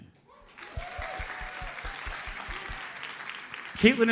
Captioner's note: audience cheers and applauds